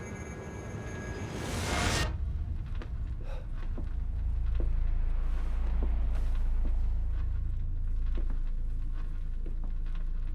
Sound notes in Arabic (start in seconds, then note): none